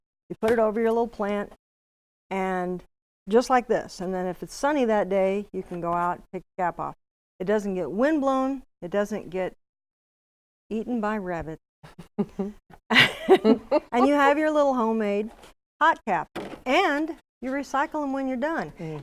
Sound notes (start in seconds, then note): 12.8 laughing; 12.9 laughs